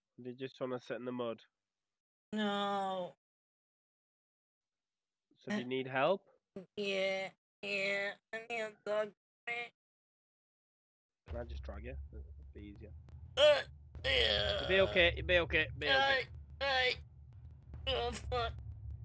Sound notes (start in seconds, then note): 14.0 groans